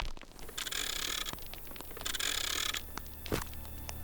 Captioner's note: film whirring; solemn music